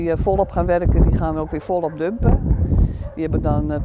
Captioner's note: dogs